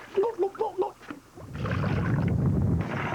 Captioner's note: gulping